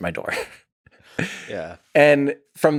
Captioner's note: Tim laughs